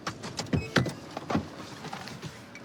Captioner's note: beeping